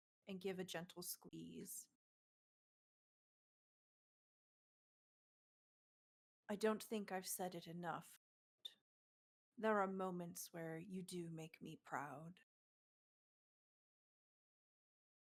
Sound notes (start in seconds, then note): none